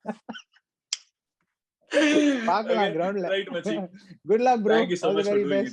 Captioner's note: laughs